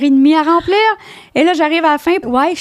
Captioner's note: in french